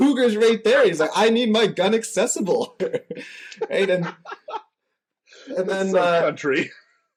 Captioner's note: laughter